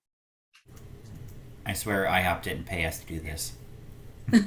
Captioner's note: giggles